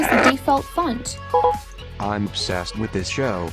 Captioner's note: software beeps